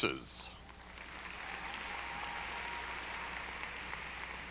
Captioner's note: audience applauding